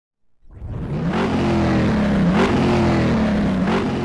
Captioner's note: engine revving